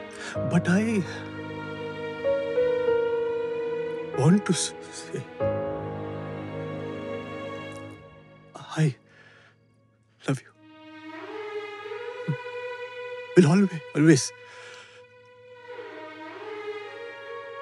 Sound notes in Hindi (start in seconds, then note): none